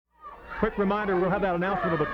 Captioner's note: crowd clamoring